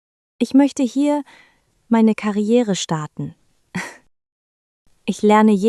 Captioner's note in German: lacht